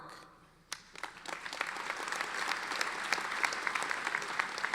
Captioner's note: audience applauding